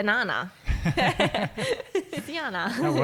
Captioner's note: laughing